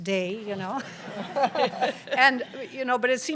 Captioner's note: laughter